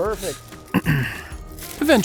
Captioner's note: clears throat